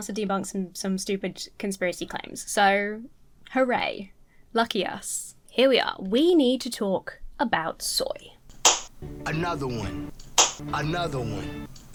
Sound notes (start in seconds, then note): 10.2 hands smacking